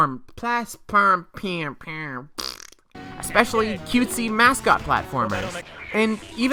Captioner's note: fart